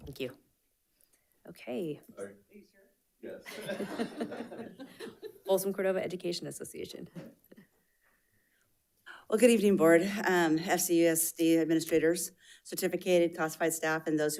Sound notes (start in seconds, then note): 3.4 all laughing